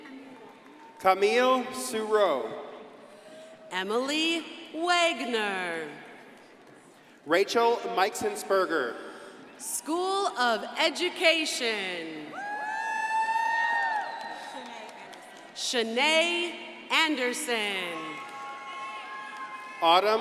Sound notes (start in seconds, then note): 12.3 crowd cheering; 17.9 crowd cheering and applauding